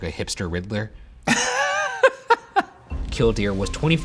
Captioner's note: laughing